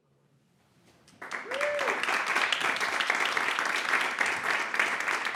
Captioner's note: audience applauding